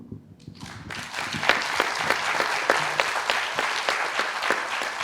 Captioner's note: audience applauding